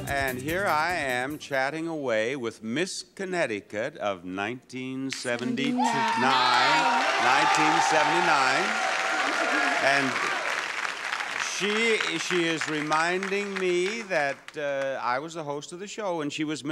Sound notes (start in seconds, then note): 8.3 audience clapping